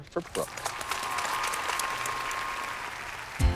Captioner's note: cheers and applause